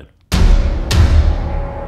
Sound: thunder clap

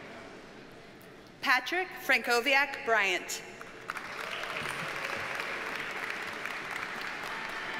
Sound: audience cheers and applauds

